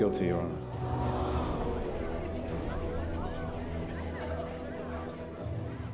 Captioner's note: gasps from the courtroom audience